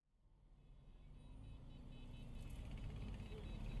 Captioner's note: traffic sounds